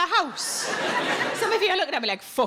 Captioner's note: audience laughs